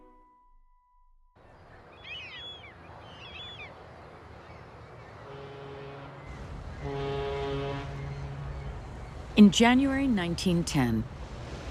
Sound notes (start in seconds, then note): 1.6 waves crashing, seagulls squawking; 5.2 ship horn blowing